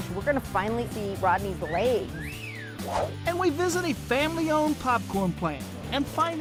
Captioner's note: whistling